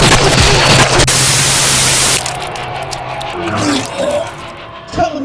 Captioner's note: static crackling